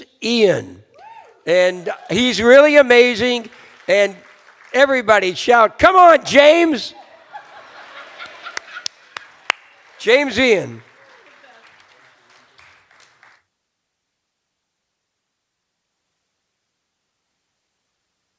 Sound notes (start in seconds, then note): 10.7 cheers and applause